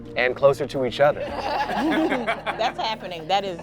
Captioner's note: all laughing